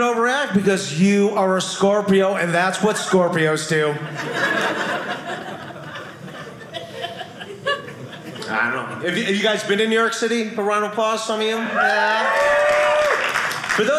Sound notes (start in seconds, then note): 3.9 audience laughing; 11.6 audience cheering